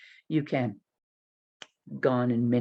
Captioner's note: snaps